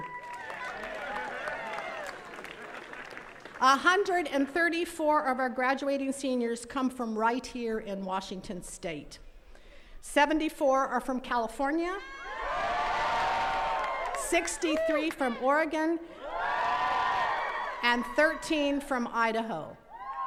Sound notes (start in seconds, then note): 0.0 attendees cheering and clapping; 12.1 attendees cheering and clapping